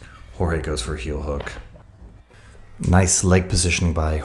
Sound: hand slaps

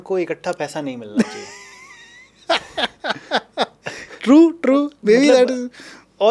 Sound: laughs

